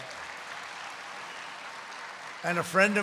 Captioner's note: applause